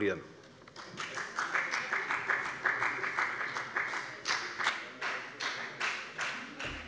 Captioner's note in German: Beifall bei der FDP